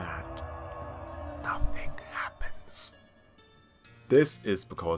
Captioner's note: whispering